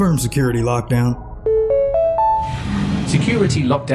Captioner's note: notification chime